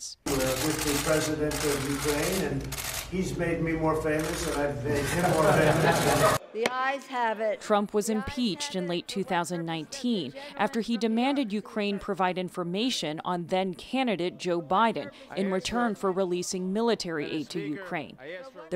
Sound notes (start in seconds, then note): 5.2 laughter